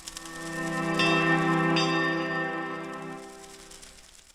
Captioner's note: light music; bell dinging